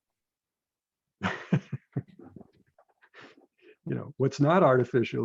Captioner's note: laughs